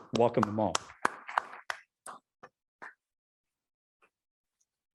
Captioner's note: audience applauding